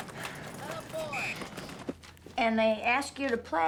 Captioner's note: whistle blowing